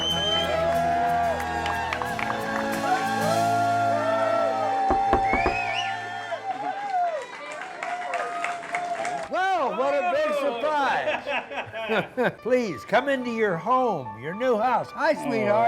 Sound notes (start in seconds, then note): 0.0 cheering and Shouting